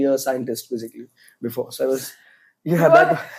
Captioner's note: laughs